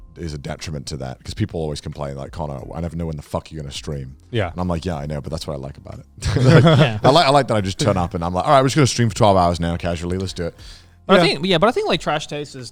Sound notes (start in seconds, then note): 6.2 group chuckles